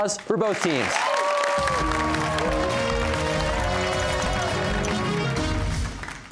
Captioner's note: cheers and applause